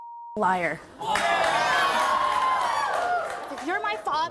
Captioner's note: audience cheers